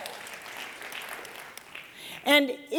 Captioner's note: applause